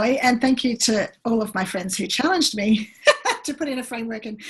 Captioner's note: laughs